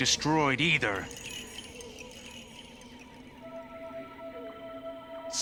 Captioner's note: chimes tinkling